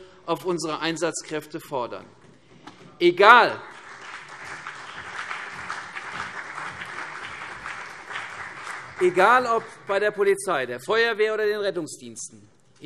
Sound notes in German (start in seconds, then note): 3.2 Beifall CDU und BÜNDNIS 90/DIE GRÜNEN